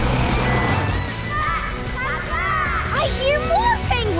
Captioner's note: squeaking